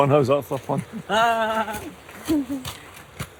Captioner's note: sarcastic laughter